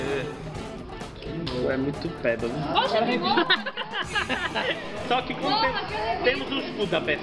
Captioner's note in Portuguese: risos